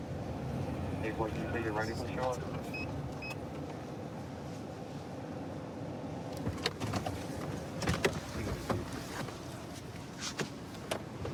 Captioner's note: indistinct dispatch speech